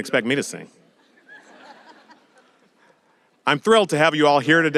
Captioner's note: audience laughing